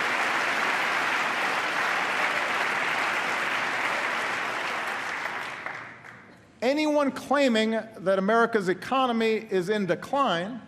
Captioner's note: applause